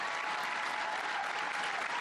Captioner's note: applause; cheering